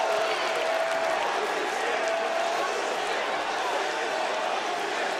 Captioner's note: chants "Holy shit"